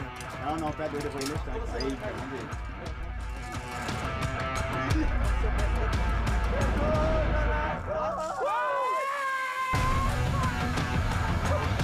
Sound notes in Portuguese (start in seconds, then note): 5.4 risos; 6.5 grita